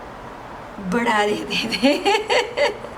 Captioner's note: laughs